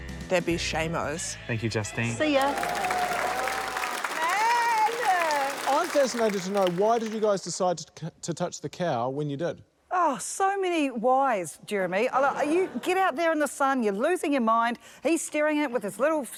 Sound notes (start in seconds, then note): 2.3 applause; 10.7 laughter